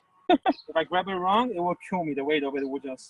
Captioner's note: chatter